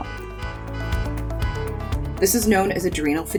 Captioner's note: car horns honking